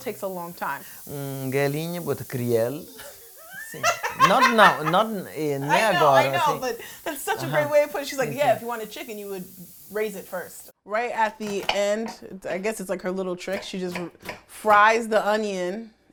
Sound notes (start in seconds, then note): 1.7 speaking in portuguese and laughing